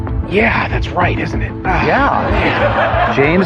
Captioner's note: laughter